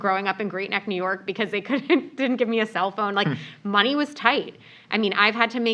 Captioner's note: laugh